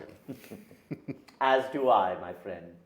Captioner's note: men laughing